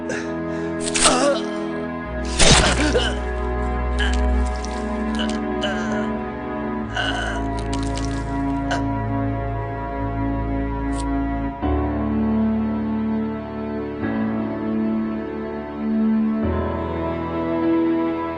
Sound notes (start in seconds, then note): 2.3 thudding blow; 4.3 groaning in pain; 7.0 light melodic orchestral music